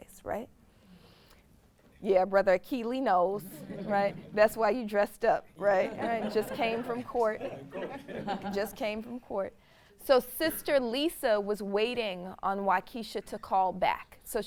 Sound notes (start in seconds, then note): 3.5 audience laughs; 5.8 audience laughs